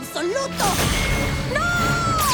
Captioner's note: zap